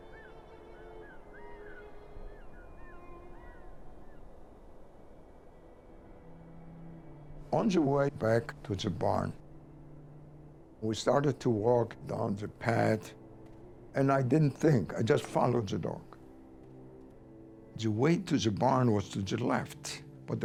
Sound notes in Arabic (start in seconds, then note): 0.0 نعيق الطيور; 0.9 موسيقى الكمان الحزينة